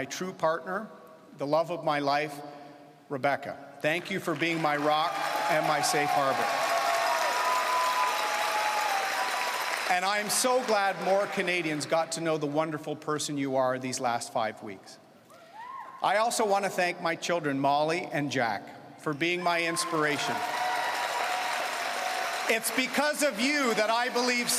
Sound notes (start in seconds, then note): 9.5 cheering and Applause